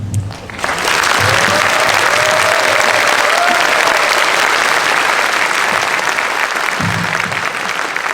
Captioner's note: applaud